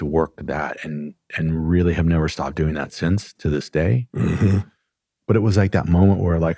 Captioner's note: clears throat and snorts